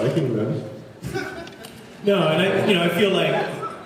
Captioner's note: laughs